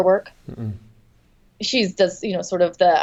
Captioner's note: makes negative noise